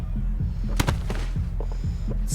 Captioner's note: body thuds